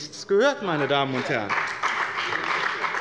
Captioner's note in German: Beifall bei dem BÜNDNIS 90/DIE GRÜNEN und der CDU